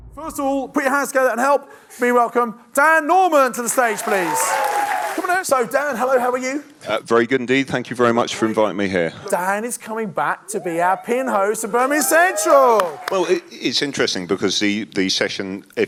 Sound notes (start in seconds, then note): 3.5 audience cheering and clapping; 12.4 audience clapping